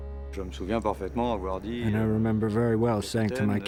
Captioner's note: speaks in foreign language